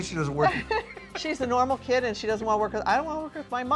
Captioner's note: laughing